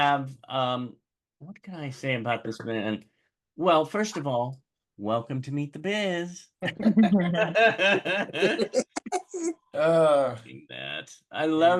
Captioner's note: laughter